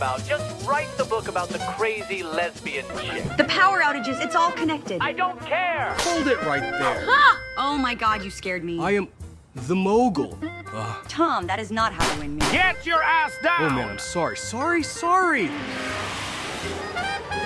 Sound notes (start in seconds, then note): 12.0 gunshots blasting; 15.4 The Mogul whooshes; 17.3 upbeat jazzy music